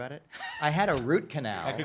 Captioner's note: laughing